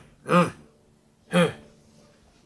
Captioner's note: grunts